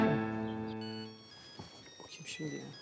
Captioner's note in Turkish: Telefon zili sesi